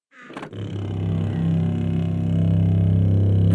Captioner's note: hums